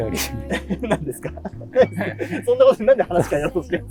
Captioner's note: laughing